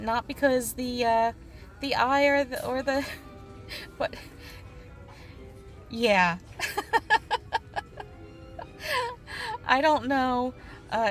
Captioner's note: laughter